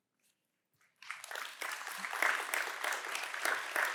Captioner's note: applause